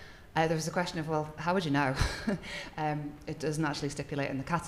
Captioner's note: chuckles